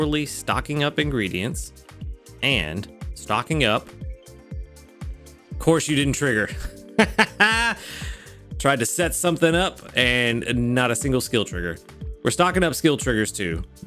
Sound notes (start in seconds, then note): 7.0 laughs